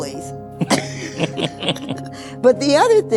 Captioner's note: laughing